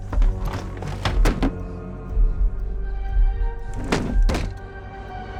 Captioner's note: chair banging against floor